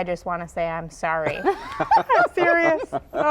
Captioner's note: laughing